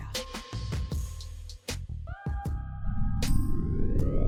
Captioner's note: wind howling